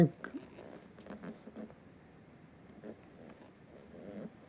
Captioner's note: pauses 8 seconds